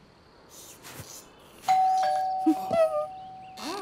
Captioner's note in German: Türklingel